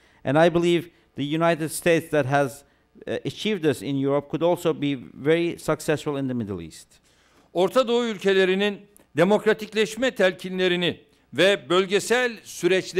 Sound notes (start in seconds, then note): 8.8 non-english speech